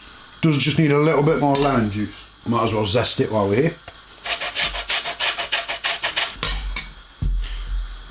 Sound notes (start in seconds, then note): 4.2 zesting